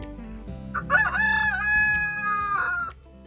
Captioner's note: rooster crowing